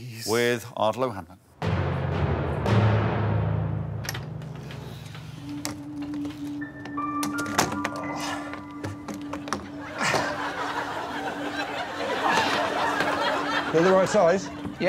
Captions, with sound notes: Okay, well here is Judi with Ardal O'Hanlon. [dramatic banging sound] [suspenseful music playing] [Ardal grunting] [laughter]